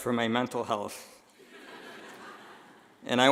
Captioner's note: laughing